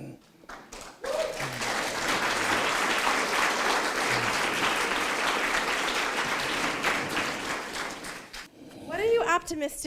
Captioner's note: applause